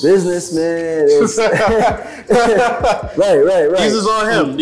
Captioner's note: laughing